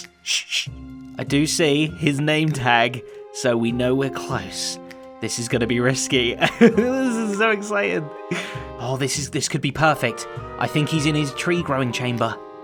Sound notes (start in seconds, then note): 6.4 nervous chuckle